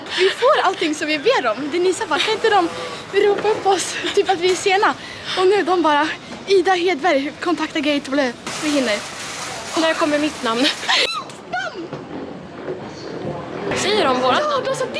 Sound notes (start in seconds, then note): 11.1 screams